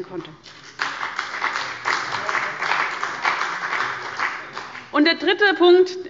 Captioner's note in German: Beifall bei dem BÜNDNIS 90/DIE GRÜNEN und der CDU